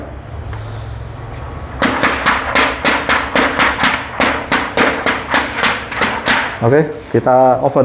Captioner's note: PET film noise